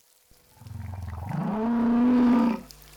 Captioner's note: whale bellowing